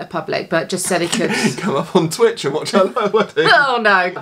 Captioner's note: laughs